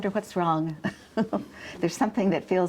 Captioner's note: chuckles